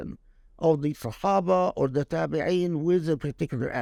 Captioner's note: speaking Arabic